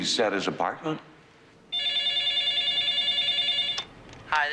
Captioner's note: phone ringing